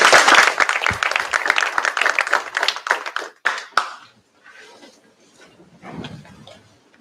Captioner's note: applause